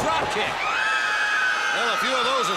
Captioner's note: crowd cheering